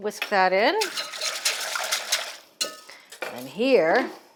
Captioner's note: tequila ice whisking